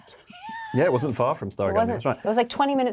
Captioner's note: Yerin laughing